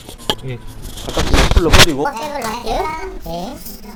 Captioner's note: distorted voice of uploader